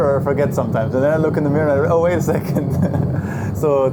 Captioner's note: laughs